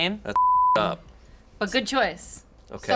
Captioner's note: beep